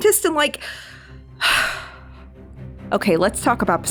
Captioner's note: heavy Sigh